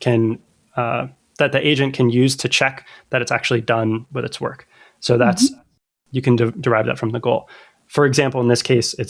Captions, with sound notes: [UH] that the agent can use to check that it's actually done with this work. So that's Mm-hmm you can der- derive that from the goal. For example in this case it's like